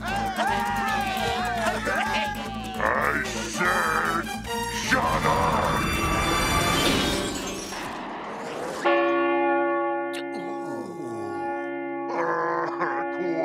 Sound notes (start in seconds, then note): 0.0 everyone cheering; 8.8 bell dings